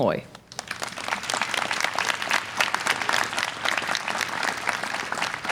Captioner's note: audience applause